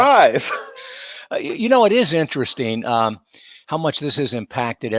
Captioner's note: both chuckling